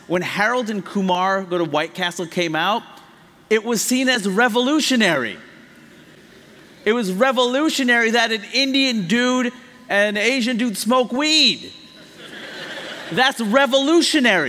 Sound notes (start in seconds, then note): 12.0 laughter